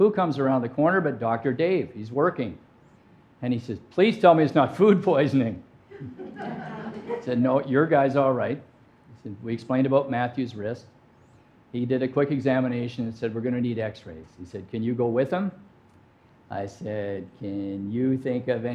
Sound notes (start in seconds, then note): 6.0 audience laughing